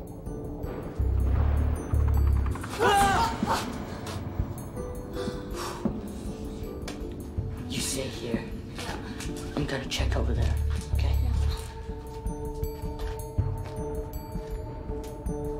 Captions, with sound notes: [ Thunder ] [ Both Scream ] [ Both Sigh ] You stay here. Yeah. I'm gonna check over there, okay? Yeah.